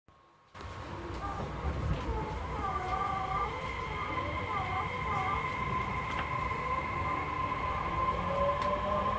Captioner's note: acceleration sound